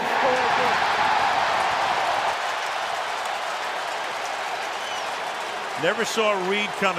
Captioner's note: crowd cheering